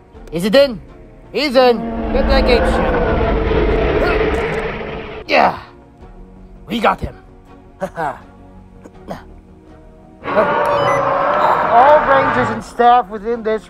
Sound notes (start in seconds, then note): 3.7 postosuchus Sounds